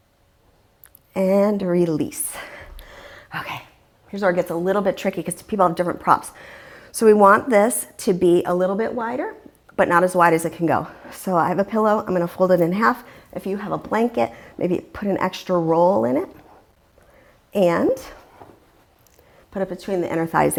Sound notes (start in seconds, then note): 4.4 deep breathing sounds